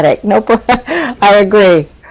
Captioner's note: laughter